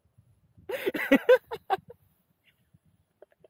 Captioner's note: laughter